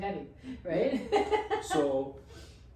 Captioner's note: laughs